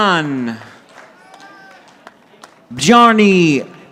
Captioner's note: audience applauding